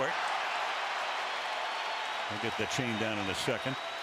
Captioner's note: cheers